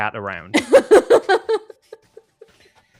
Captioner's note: giggles